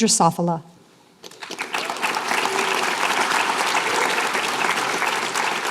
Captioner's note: applause